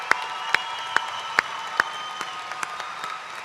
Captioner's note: cheers and applause